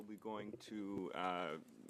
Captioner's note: speaking French